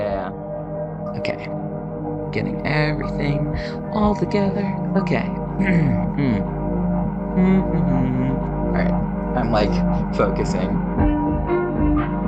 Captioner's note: clears throat; chill music